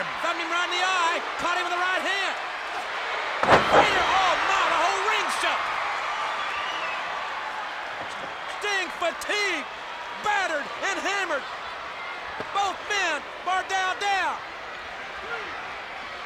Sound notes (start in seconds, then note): 3.4 Vader thuds; 4.2 audience cheers